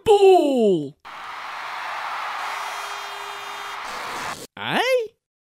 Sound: crowd cheering

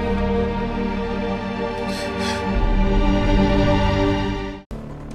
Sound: weeping

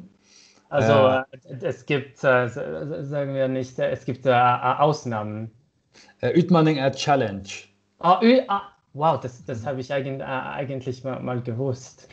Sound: speaking German

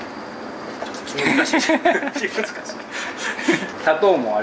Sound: laughs

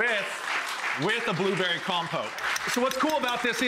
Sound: applause

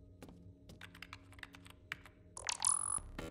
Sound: typing; computer activates

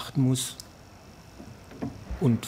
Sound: quiet whirring

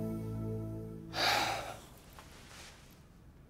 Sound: Rohit gasps

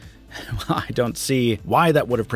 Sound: chuckles

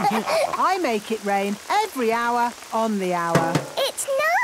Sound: all laughing; taps

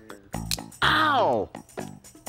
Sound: teeth cracking

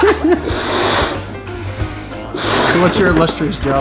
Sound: laughs; air blowing

